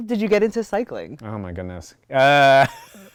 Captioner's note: laughs